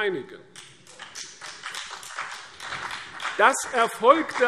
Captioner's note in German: Beifall CDU und BÜNDNIS 90/DIE GRÜNEN